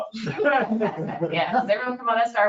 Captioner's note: chuckling